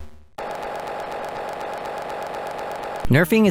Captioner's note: audience cheering